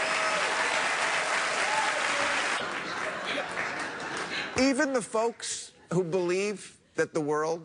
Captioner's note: laughter